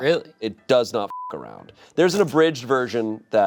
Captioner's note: beep